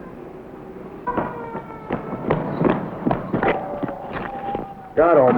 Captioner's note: sound of men running towards a vehicle